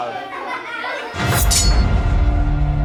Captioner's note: laughter